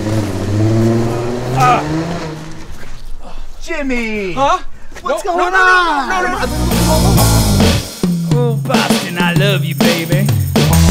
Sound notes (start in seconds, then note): 0.0 car engine roaring